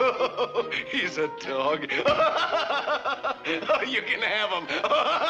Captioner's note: laughing; laughs